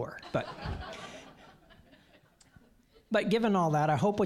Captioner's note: audience laughing